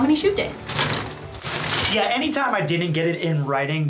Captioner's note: curtains rustle